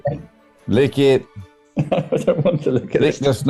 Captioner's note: laughing